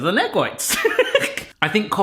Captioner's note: laughs